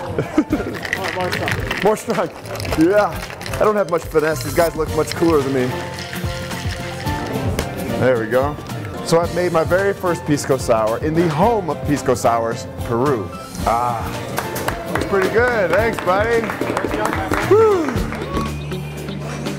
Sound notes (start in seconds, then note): 0.0 laughs; 14.3 applause